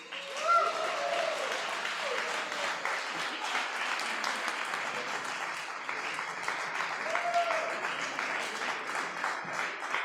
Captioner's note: applause